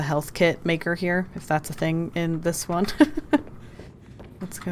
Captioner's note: laughs